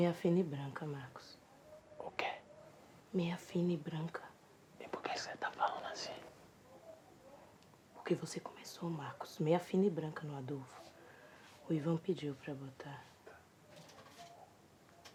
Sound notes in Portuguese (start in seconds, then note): 2.0 sussurro; 8.3 sussurro; 14.2 silêncio incômodo